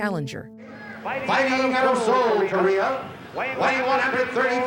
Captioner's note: echoing